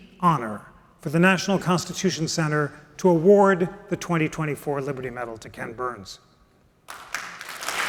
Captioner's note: applause